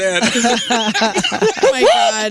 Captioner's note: laughing